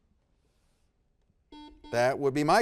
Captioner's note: buzzer beeps